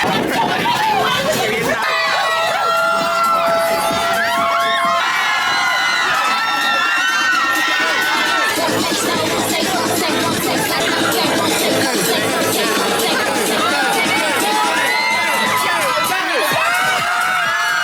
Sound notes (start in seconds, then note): 0.2 electro pop music; 6.5 crowd continues screaming and cheering; 14.8 electro pop music